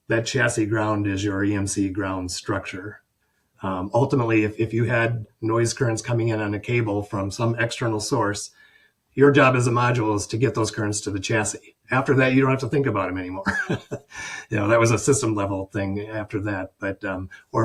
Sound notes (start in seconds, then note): 13.4 chuckles